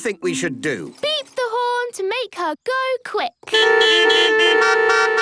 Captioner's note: beeping